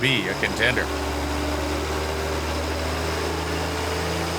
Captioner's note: engine revving